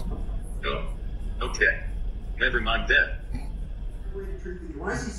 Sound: laughs

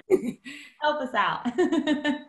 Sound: laughter

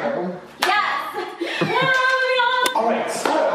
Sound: claps

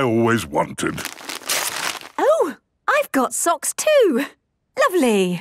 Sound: tearing

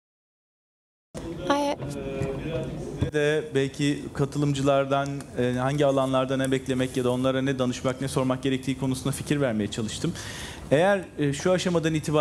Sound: speaking foreign language

